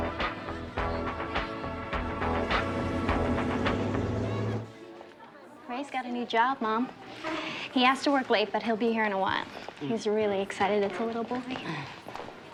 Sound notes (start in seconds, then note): none